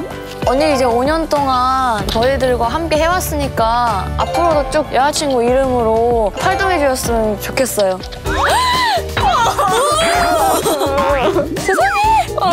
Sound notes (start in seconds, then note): 8.2 gasps; 8.2 sobbing